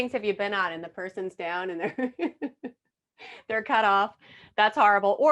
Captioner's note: laughing